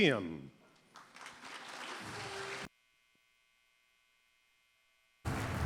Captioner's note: applause